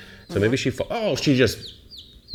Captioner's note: chick sqwarking